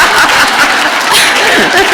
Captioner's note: laughter